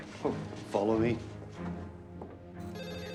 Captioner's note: footstep